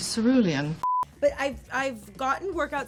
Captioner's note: screen beeps